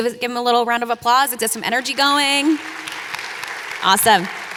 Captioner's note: audience applauding